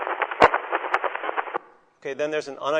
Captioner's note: scratching noises